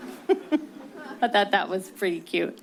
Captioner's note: chuckles; distant laughing